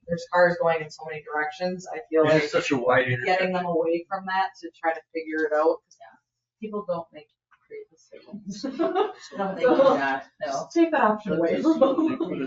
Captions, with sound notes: there's cars going in so many directions. I feel like getting them away from that to try to figure it out because people don't make great decisions. (laughs) Take that option away.